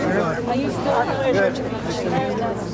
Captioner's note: crowd chatter